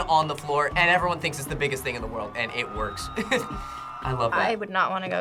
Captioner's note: chuckles